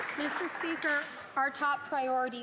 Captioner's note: some Applause